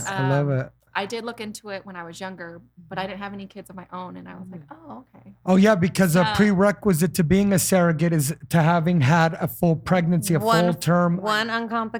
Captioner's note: laughing